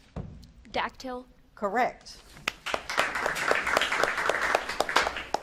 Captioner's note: audience claps